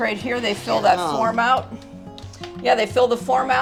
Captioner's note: voice drowns